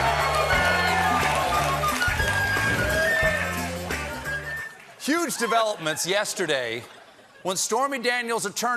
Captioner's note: cheers and applause